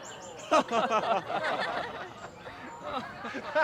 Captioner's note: all laughing